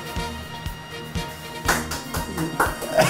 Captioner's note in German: Einsames Klatschen